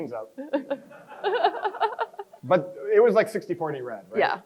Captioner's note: crowd chuckles